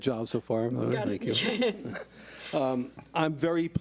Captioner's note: laughs